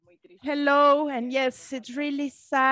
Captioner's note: speaking in a foreign language